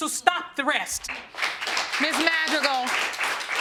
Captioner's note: audience applauding